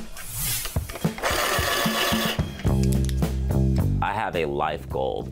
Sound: upbeat music; sharpener whirring

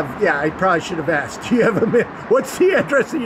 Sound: chuckling

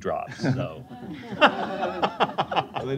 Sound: laughter

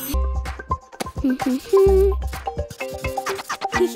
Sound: humming; giggling

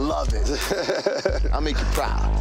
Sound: chuckles

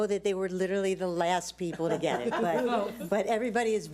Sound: board laughs

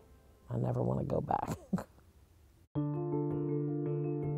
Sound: chuckles; low solemn music

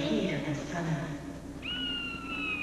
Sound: bird calls

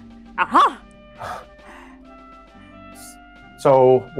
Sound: chuckles

